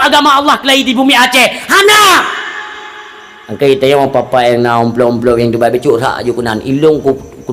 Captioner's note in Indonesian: berteriak